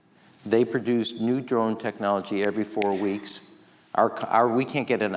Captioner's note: snaps